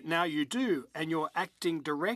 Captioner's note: speaking in French